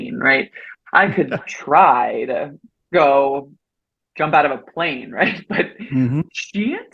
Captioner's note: chuckles